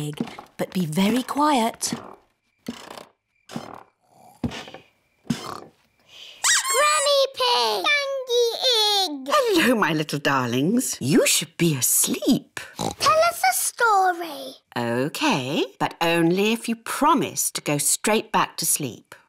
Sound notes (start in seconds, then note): 0.0 stairs creak softly; 3.6 both snore; 6.1 duck squeaks; 12.7 oinks